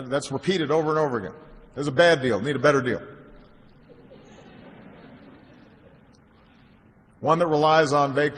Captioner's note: laughter